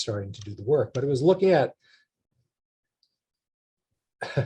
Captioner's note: chuckles